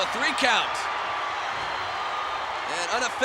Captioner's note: crowd cheers